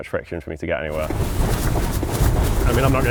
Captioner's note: aircraft whirring